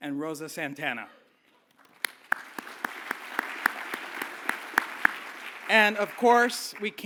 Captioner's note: applause